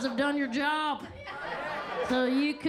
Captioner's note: attendees laughing